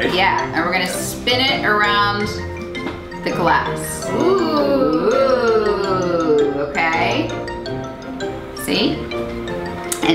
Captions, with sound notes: - Yeah and we're gonna spin it around the glass. (ooing) Okay. See.